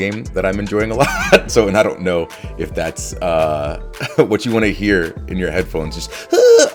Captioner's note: laugh